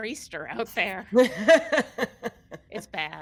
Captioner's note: all laughing